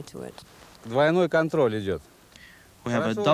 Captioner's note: speaking foreign language